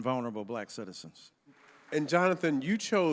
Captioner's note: audience applauding